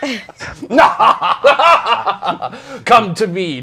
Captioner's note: evil laughter